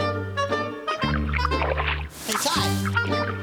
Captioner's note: sloshing